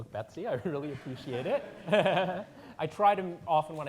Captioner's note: audience laughing